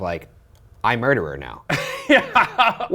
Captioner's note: laughs